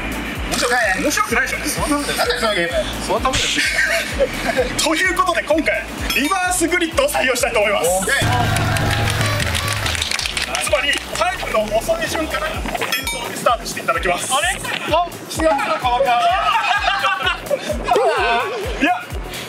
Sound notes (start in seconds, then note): 16.0 laughs